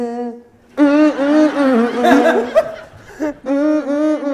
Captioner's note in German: Lachen